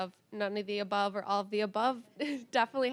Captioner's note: chuckling